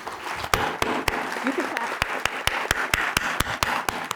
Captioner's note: applause